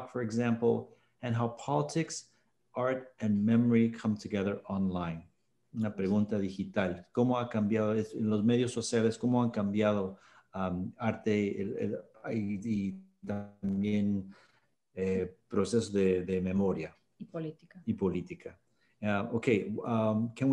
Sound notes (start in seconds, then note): 5.6 speaking spanish